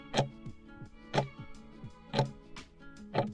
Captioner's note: timer ticking